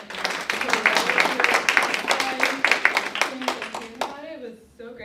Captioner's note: audience clapping